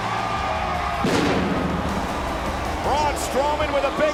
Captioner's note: pyrotechnics firing